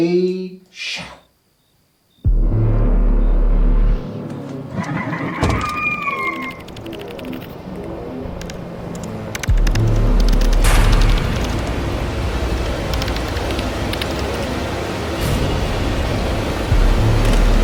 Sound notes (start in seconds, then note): 2.6 suspenseful music; 5.7 alien tittering; 11.2 dramatic music